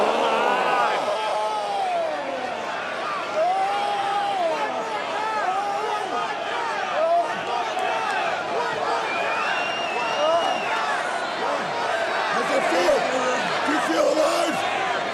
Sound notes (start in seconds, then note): 6.8 crowd chants "one more time"